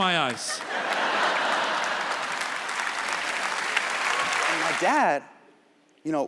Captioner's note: audience cheers